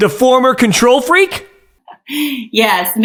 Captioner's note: chuckling